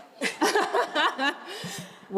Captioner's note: all laugh